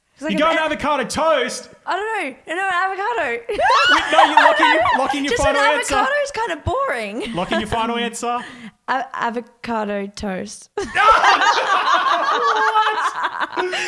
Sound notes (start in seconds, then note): 3.4 laughs; 10.8 all laugh